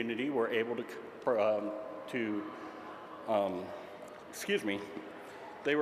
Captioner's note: stutters